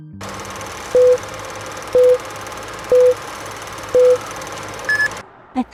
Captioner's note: beeping